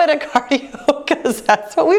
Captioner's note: laughing